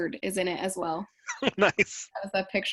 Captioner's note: laughs